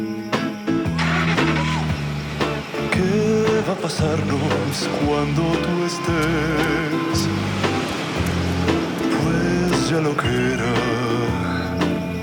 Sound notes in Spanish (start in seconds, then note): 2.2 Ruido de un vehículo